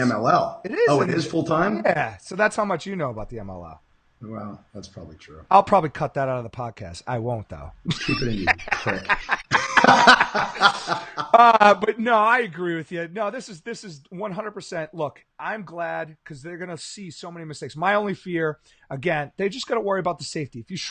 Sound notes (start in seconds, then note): 9.5 laughing